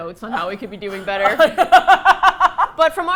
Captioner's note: both laugh